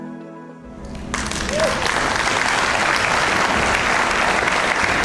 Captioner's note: audience applauds